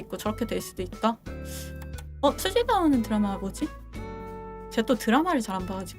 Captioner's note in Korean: 콧방귀